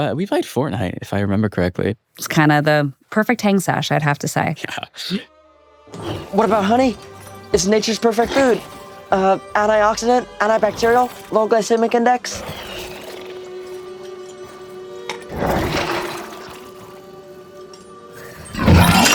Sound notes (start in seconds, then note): 4.9 chuckling; 12.3 zombie chuffing